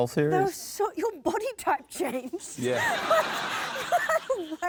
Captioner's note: laughs